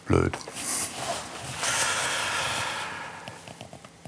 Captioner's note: he takes a deep breath